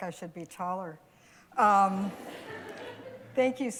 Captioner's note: laughter